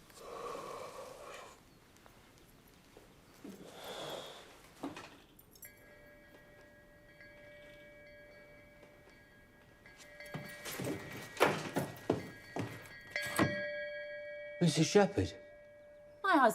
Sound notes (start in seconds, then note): 5.8 bell ringing